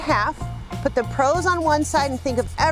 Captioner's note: scratching